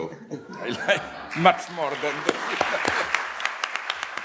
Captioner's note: applause